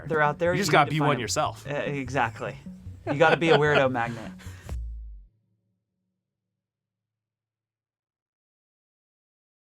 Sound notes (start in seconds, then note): 3.0 laughs